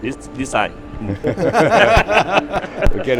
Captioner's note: all laughing